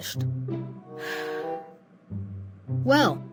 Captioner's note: breathes